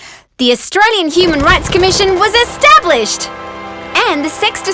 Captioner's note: fireworks exploding